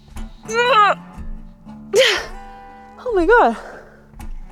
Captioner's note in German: grunzt